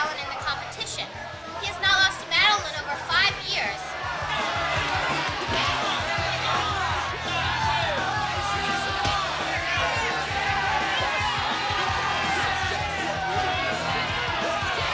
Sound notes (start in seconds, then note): 6.1 crowd shouting; 6.1 kicks pounding; 11.6 intense rock music